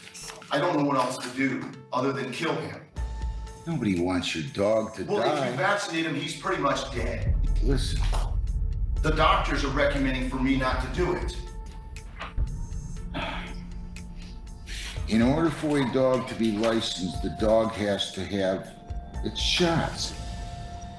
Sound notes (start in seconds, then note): 12.4 sighs